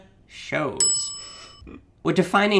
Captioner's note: bell rings